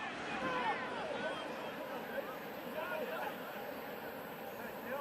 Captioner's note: onfield chatter